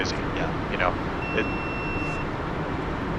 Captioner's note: GoPro Camera BEEP